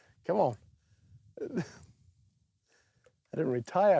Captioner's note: laughs